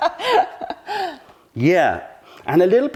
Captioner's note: laughter